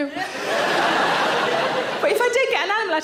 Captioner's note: audience laughing